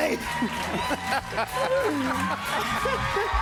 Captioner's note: laughs